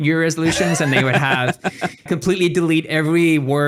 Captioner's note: laughing